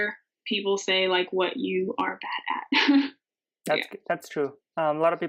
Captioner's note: laughing